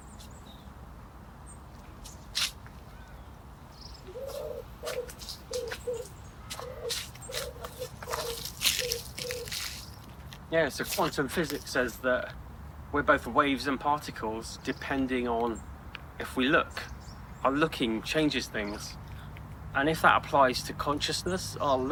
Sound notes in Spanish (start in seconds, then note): 3.8 pájaro arrulla